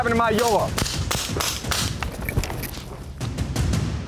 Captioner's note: rapid gunfire; pounding drum beat